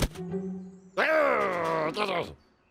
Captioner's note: growls